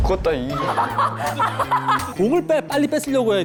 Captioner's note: laughing